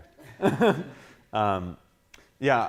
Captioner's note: laughing